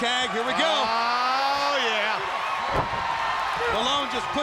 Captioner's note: audience cheers